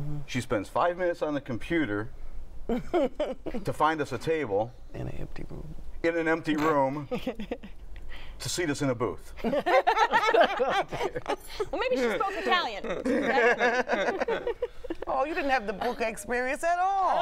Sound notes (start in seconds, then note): 2.7 chuckles; 9.4 laughter